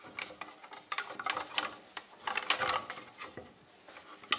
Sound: quiet clatter

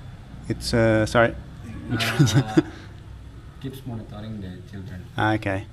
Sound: laughing

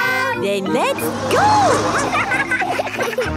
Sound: laughing

